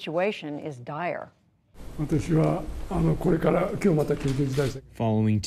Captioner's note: through translator